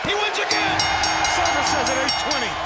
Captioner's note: bell ringing